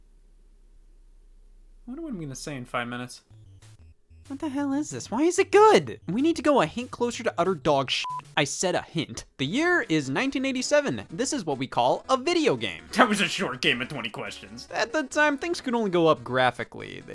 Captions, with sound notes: What you want me to say in five minutes? What the hell is this? Why is it good? We need to go a hint closer to utter dog (beep). I said a hint. The year is 1987. This is what we call a video game. That was a short game of 20 questions. At the time, things could only go up graphically.